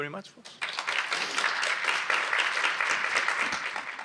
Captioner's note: applause